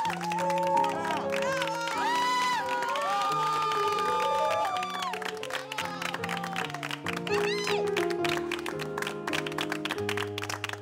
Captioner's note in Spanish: aplausos